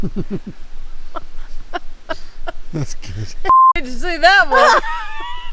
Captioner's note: person laughing; music beeping